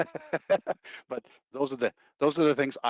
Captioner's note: laughing